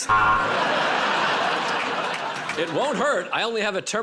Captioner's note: buzzer